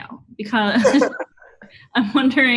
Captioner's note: laughs